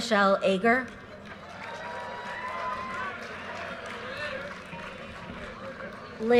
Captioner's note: audience cheers and applause